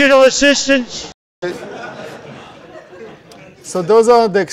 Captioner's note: laughter